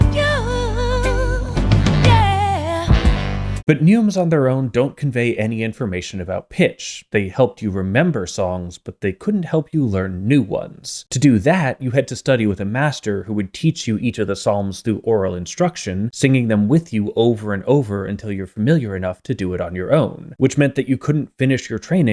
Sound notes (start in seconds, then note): 1.7 bang